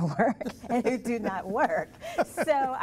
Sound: laughter

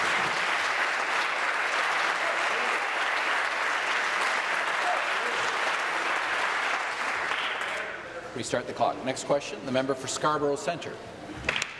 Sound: applause

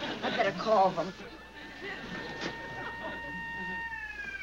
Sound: sirens

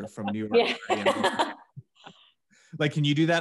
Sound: laughs

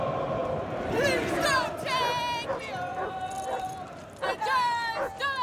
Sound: football supporters chanting; dog barks

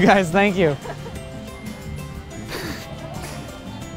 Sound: girls giggling

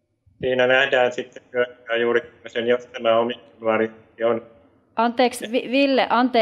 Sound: voice is cutting out

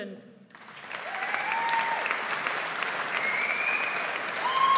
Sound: audience applauds

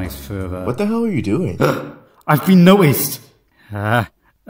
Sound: gasp

